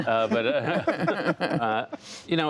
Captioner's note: laughter